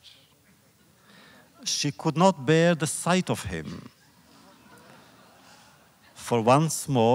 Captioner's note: laughter